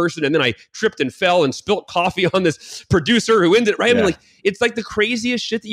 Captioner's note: mutters